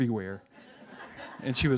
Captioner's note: laughs